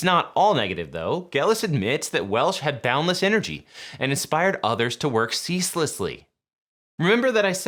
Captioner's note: Welsh